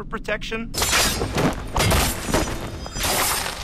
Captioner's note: slashing